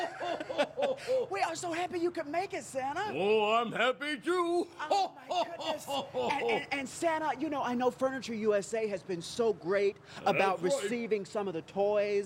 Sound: laughter

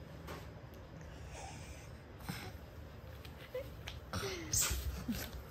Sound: laughing

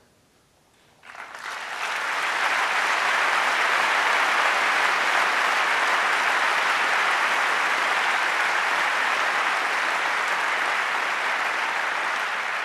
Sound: applause

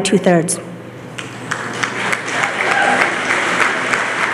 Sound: applause

